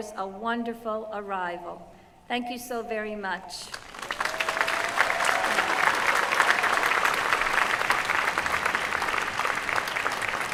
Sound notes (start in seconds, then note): 3.7 applause